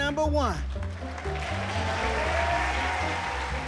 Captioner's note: applause